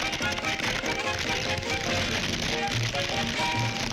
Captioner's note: crackling